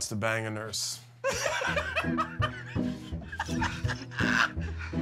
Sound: laughing

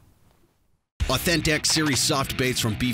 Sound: voiceover

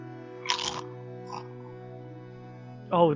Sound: crunches on Pringle

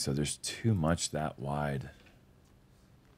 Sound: none

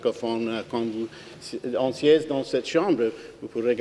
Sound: speaking French

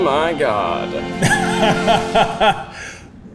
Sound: laughing

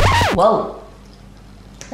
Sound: record scratches

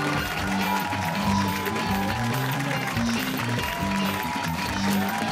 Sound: cheers and applause

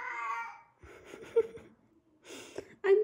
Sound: laughs

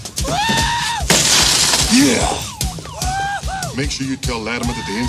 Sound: window crashes, car alarm goes off

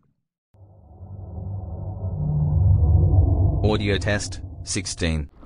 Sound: eerie ethereal transitional SFX

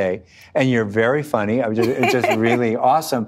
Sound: laughing

